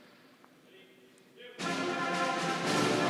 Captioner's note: commander speaking faintly; bright marching band music